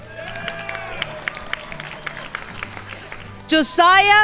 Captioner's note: crowd applauding